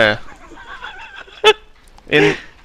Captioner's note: laughs